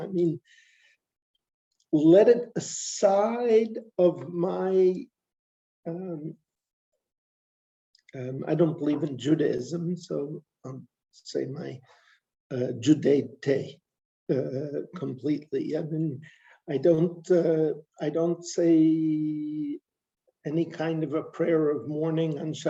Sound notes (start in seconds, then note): 12.7 non-english speech